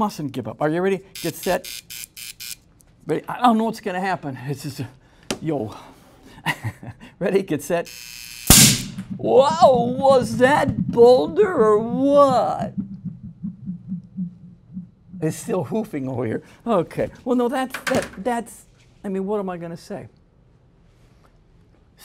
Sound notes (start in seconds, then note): 8.5 much louder pop; 12.2 engine making popping sounds